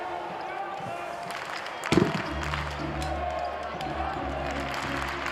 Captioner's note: audience cheering